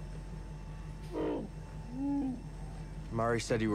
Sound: growl

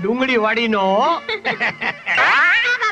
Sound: laughs

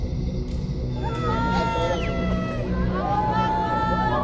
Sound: screaming

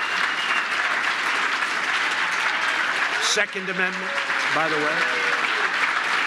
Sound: applause

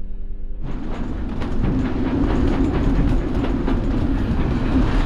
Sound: boat engine whirring

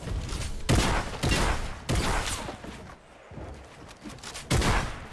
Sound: gun clicks; gun bangs

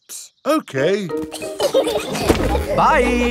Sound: laughing

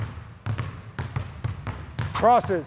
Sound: balls continue thudding

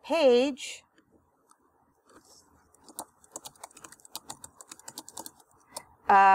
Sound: typing

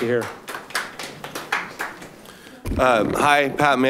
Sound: clapping

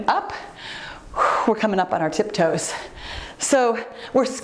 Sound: exhales heavily

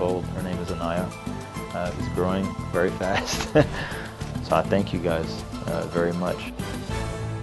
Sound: laughs

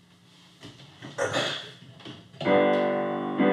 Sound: clears throat; playing piano

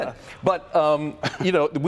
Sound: laughter

